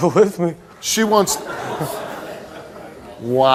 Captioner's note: audience laughs